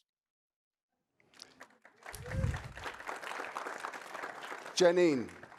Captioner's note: audience cheering and applauding